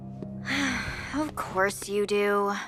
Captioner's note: Elda sighs